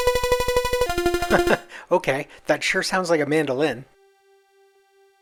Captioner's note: laughs